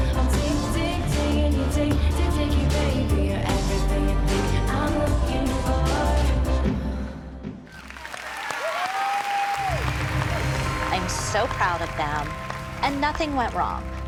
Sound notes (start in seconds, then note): 7.6 cheers and applause